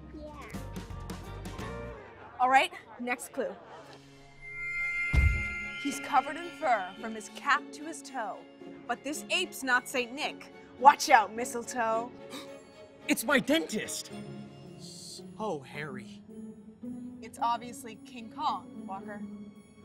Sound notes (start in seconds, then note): 12.3 gasp